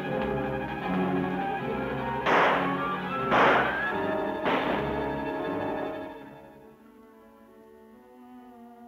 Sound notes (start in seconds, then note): 2.2 gun firing